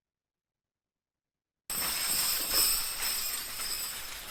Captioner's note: bells ringing